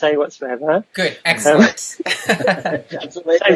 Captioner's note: laughs